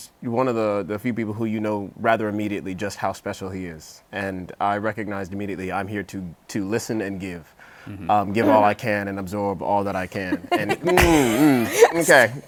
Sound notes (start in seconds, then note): 10.2 laughs